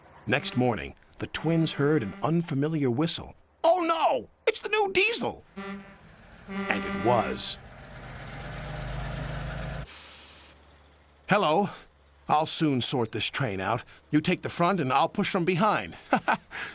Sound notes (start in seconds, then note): 6.5 low whistle blows